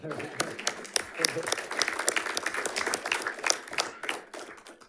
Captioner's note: audience applauding